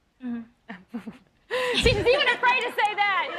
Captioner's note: laughing